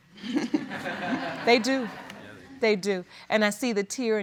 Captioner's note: all chuckling